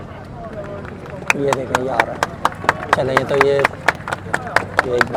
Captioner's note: people clapping